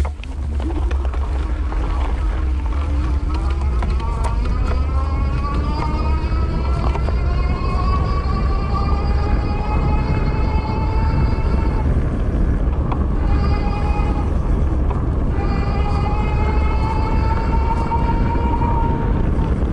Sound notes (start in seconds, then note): 1.8 squeaks